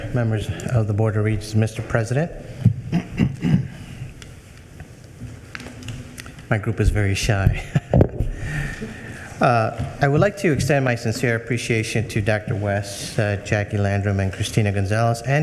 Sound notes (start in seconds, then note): 2.8 clearing throat; 7.4 chuckling